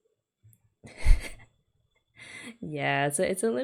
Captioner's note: laughs